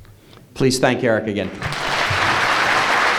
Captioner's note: applause